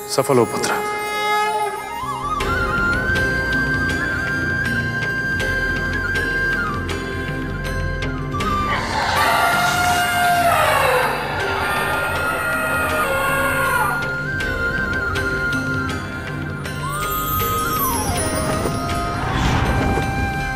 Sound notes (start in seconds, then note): 8.5 elephant trumpets